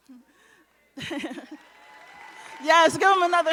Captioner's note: audience cheering and applauding